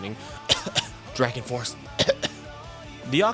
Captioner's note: cough cough